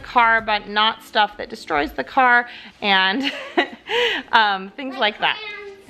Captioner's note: laughing